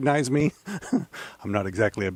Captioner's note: laughing